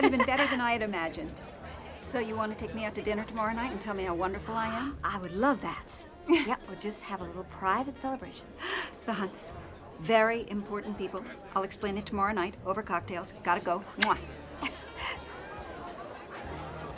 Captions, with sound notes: Turned out even better than I had imagined. (JANE CHUCKLES) So, you want to take me out to dinner tomorrow night and tell me how wonderful I am? I would love that. Yep, we'll just have a little private celebration. The Hunts. Very important people. I'll explain it tomorrow night over cocktails. Got to go. (SMACKS LIPS) (CHUCKLES)